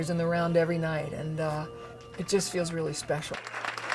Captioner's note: clapping